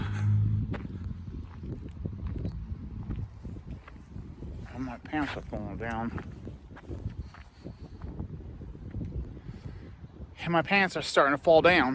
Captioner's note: traffic